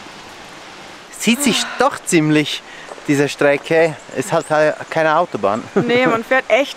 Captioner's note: laughter